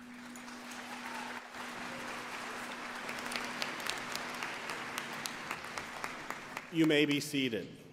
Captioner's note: applause